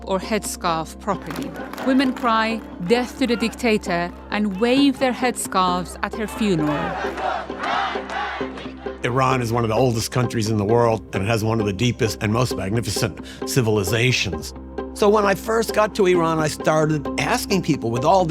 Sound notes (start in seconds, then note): 6.2 chanting